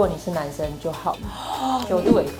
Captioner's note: gasping